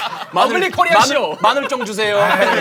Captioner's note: in Korean